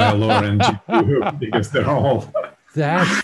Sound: laughs

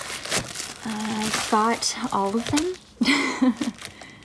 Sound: laughs

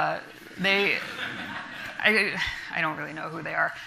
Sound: audience laughing

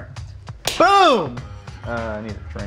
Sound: slapping

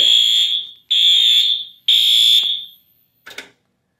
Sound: alarm still sounding

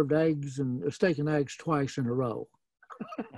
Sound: laughing

